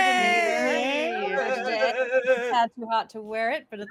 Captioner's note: exclaims